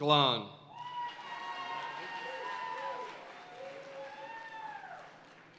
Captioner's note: audience cheering and applauding